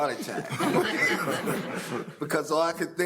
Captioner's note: audience laughing